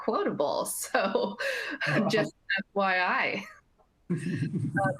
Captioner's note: laughter